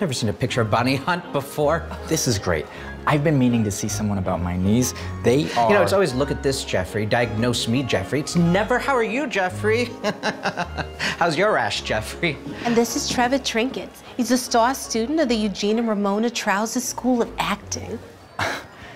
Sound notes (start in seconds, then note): 10.0 chuckles